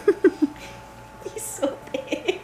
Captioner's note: laughs